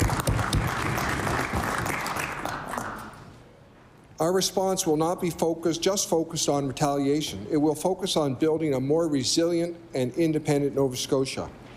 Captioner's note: applause